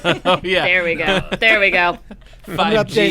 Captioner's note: laughter